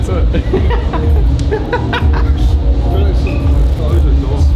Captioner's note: laughing